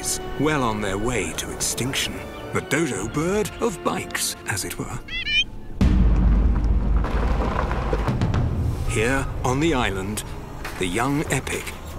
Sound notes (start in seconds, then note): 4.9 squawks